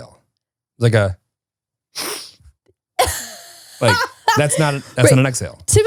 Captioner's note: inhales